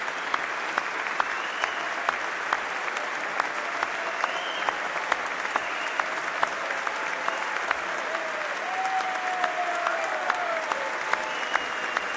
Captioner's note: applause